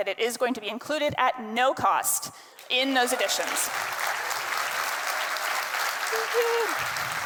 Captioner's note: attendees clapping